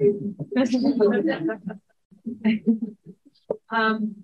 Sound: chuckling

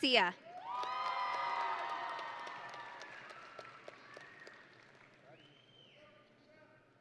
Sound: audience and graduates cheering

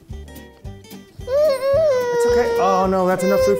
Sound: whimpers

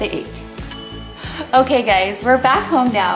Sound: kitchen timer dings

